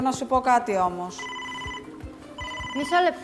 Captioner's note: ήχος τηλεφώνου